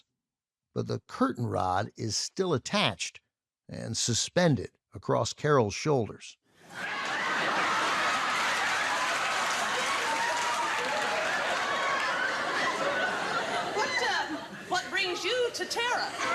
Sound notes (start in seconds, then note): 6.6 audience laughing, applauding